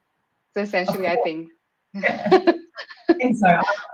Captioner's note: chuckles